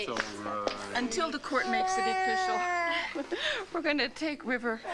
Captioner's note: river cries